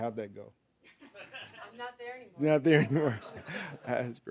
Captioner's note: audience laughing